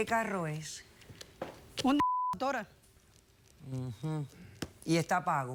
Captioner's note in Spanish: Bip